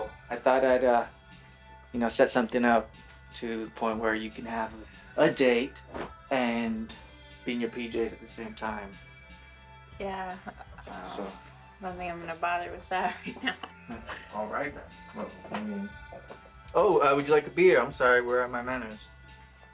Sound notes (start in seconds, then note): 13.0 she chuckles